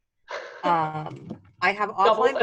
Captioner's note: laughing